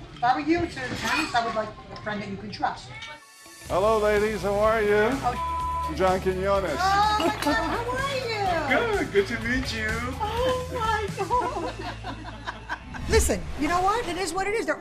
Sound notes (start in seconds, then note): 5.3 beeping; 10.2 laughs